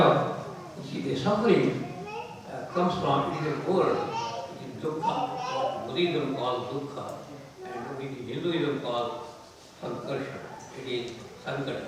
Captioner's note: sanskrit